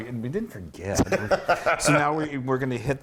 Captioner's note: laugh